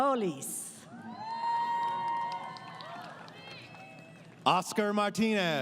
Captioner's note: crowd Cheering